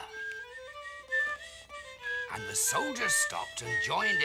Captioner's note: whistling tunelessly